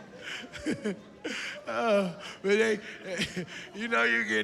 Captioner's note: laughs